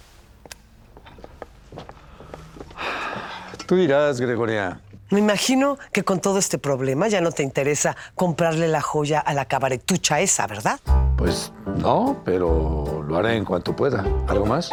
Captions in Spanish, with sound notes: [EXHALA] -TÚ DIRÁS, GREGORIA. -ME IMAGINO QUE CON TODO ESTE PROBLEMA, YA NO TE INTERESA COMPRARLE LA JOYA A LA CABARETUCHA ESA, ¿VERDAD? -PUES NO, PERO LO HARÉ EN CUANTO PUEDA. ¿ALGO MÁS?